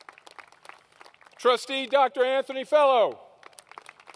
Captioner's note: applause